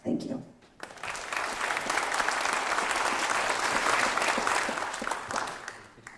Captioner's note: applause